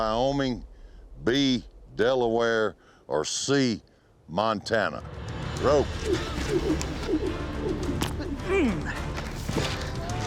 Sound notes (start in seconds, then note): 5.9 ropes swirling through air; 7.0 grunts